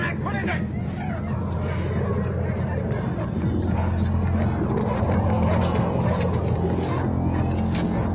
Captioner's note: dogs Barking and Baying